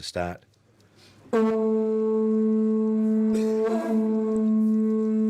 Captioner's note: horn tooting